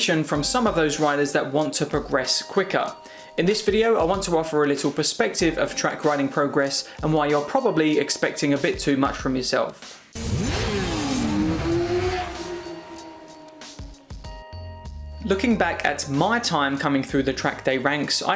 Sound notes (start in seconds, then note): 10.1 bike engine revving